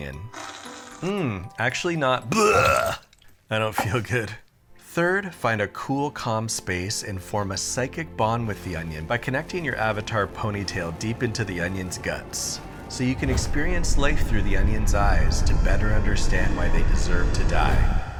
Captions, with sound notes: Mmm. Actually not-- (Retching) I don't feel good. Third, find a cool, calm space and form a psychic bond with the onion by connecting your Avatar ponytail deep into the onion's guts, so you can experience life through the onion's eyes to better understand why they deserve to die.